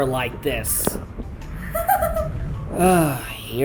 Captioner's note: giggles